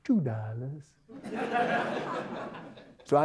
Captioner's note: audience Laughter